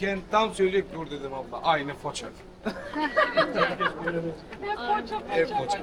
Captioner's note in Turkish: kahkaha